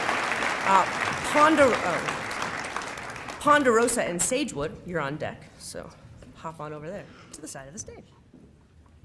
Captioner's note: applause